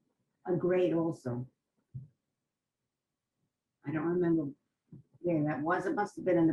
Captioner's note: pauses for 3 seconds